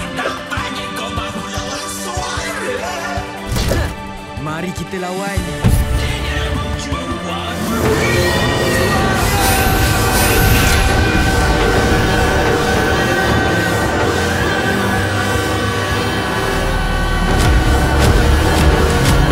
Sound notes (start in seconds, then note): 11.1 loud screaming; 16.8 screaming continues